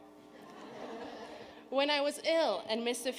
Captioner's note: audience laughing